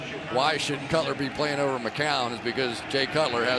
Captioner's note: crowd cheering